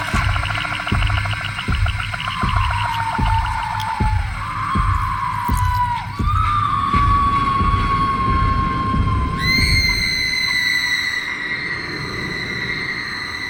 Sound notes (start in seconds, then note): 0.0 blood spurting; 0.0 creature chittering; 2.3 Dorothy screaming; 4.8 blood spurting; 9.4 Dorothy screaming